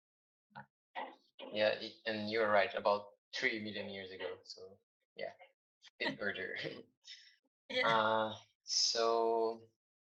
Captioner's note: laughs